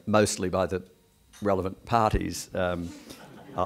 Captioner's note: background chuckles